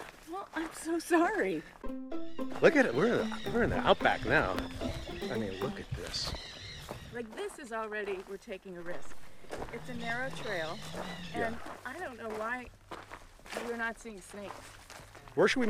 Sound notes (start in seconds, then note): 1.8 whimsical music; 6.5 birds squawking